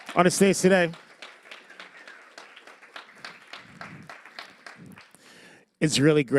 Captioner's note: applause